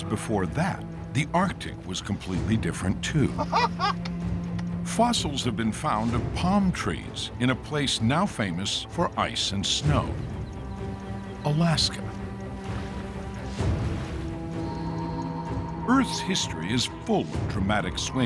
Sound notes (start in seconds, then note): 3.2 paleontologist laughs